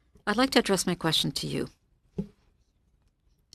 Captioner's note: speaking French